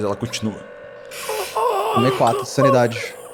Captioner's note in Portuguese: gemidos